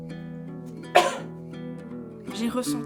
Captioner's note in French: Tousse